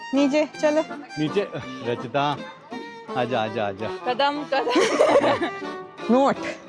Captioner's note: laughter